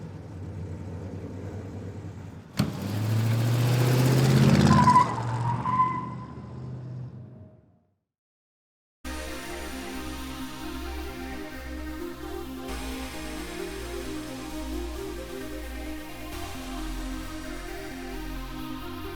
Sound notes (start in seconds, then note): 4.8 tires squealing; 9.6 upbeat music